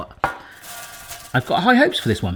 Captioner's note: corn flakes rattle